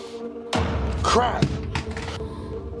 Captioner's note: gun falls to floor